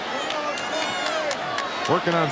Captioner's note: attendees cheering and applauding